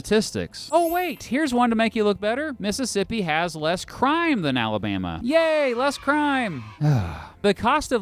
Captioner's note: sigh